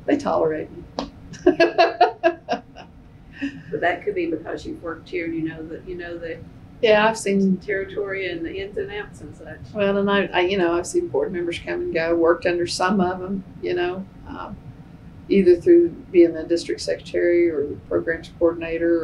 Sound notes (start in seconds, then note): 1.4 laughs